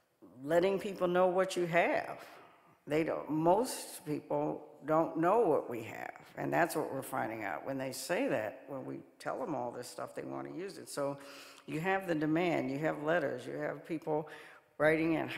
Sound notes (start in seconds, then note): none